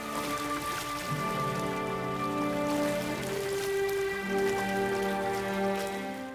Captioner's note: stirring symphonic music; water babbling